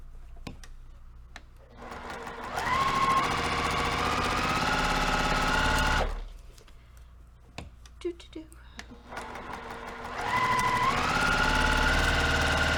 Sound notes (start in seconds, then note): 1.7 sewing machine rattling; 9.0 sewing machine rattling